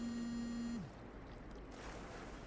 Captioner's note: phone vibrating